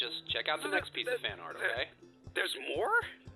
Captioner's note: sputtering